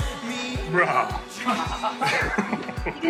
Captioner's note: laughs